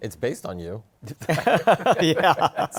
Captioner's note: laughter